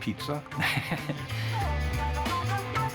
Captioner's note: laughs